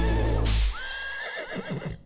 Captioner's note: horse whinnies